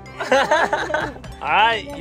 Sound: laughs

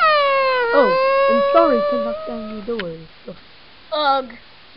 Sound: chuckles

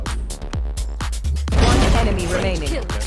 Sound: gun bangs

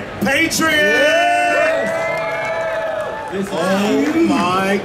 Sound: audience cheering

